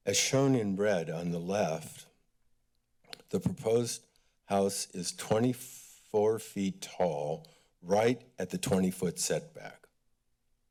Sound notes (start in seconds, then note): 2.9 click tongue